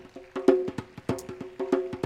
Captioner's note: applause